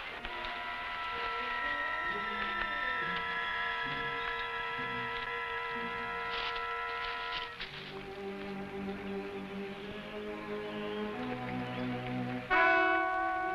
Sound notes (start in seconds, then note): 0.3 tense music; 6.0 leaves crunching; 9.9 tense music